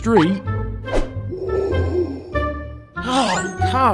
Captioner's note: breathing through gas mask noises